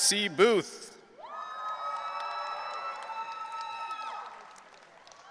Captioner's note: audience cheering